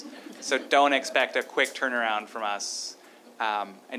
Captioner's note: laughter